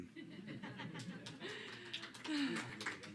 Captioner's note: applause